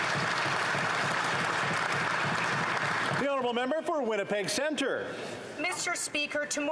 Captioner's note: some Applause